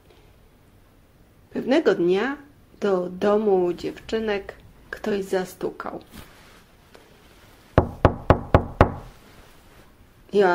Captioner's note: knocking sound